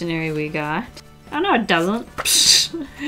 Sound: pffft

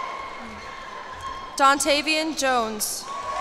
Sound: cheers and applause

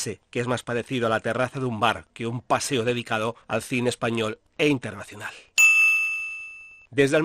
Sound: ding sound

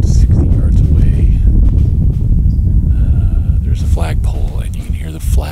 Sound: flag flapping

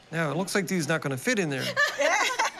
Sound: laughter

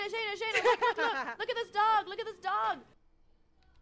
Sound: laugh

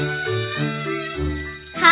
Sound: bell ringing

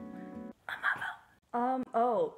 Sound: whisper

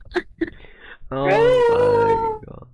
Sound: laughing

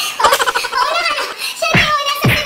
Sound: laughs

